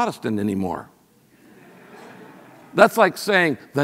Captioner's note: audience laughs